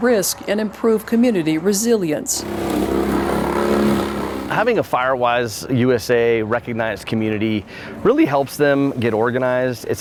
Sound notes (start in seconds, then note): 2.2 machinery whirring